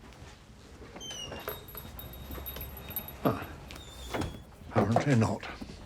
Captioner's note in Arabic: صرير الباب، يغلق